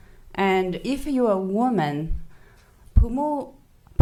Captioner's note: speaking foreign language